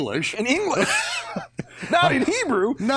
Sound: laughs

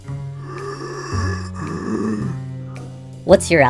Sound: evil breathing

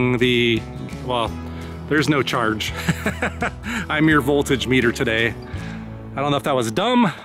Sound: laughs

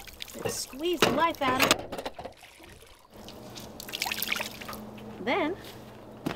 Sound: water sloshing

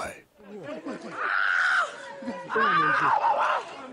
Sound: screaming

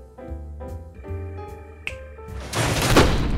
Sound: snaps

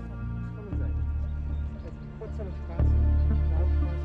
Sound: quiet chatter in German

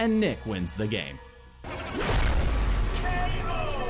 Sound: explosion triggers

